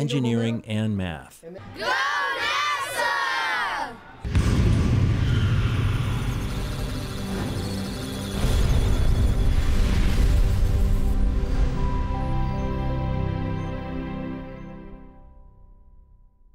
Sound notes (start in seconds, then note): 4.8 musical Tones; 6.2 electronic Sounds of Data